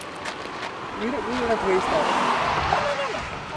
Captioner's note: murmurs